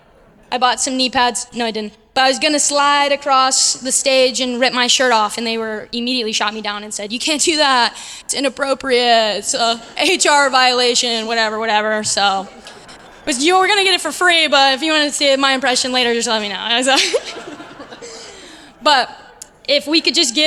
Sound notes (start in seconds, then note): 17.9 laugh